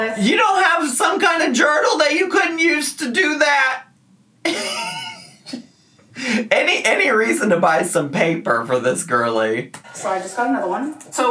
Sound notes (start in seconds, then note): 4.4 laughs